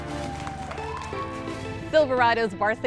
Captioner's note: cheers and applause